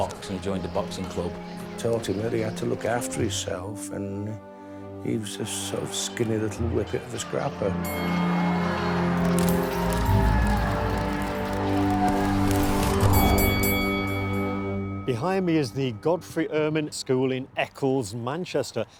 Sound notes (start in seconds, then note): 7.7 bell dings; 8.2 audience chattering